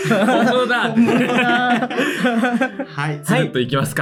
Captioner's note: laugh